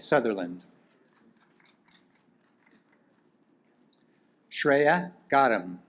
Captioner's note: audience applaud